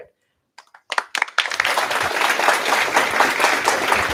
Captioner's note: applause